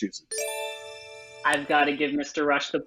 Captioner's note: electronic bell ringing